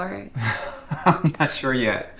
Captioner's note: Thomas chuckles